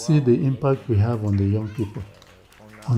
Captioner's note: applause